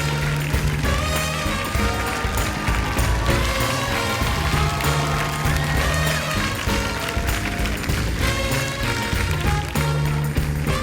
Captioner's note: applause